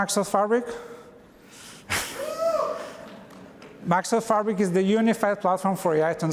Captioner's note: cheers